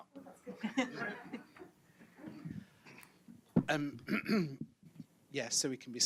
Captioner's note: audience and panel laughs